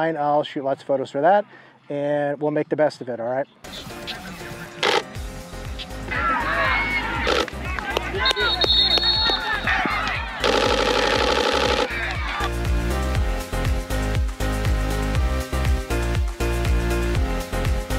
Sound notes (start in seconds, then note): 4.0 upbeat music; 6.0 crowd cheering; 7.5 camera lens clicking